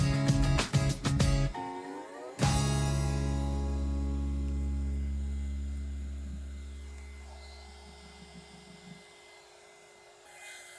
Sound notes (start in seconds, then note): 3.8 vacuum whirring